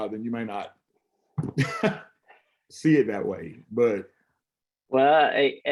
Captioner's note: laughs